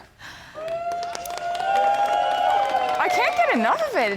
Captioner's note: screaming applause